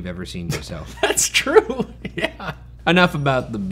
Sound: laughs

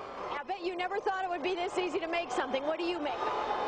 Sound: television

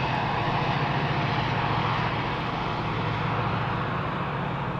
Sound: loud tow boat engine noise

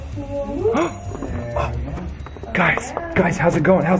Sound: gasps

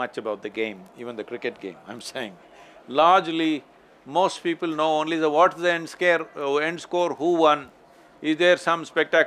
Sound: laughs

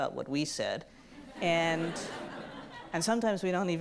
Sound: audience laughs

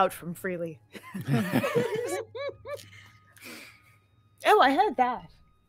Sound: all laughing

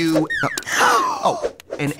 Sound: all gasp

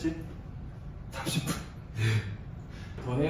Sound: gasp

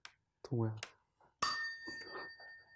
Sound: chime

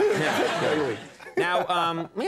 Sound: crowd laughing

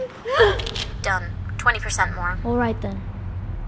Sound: woman on phone

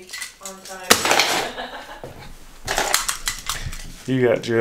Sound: laughing

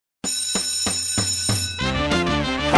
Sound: school bell ringing

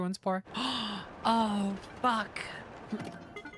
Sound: gasp

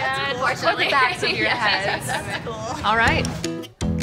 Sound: laughing

